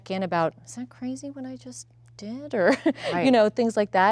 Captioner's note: laughs